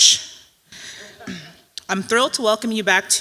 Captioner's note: audience laughing